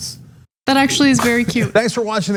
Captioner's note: laugh